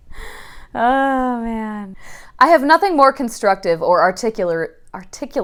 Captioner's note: laughing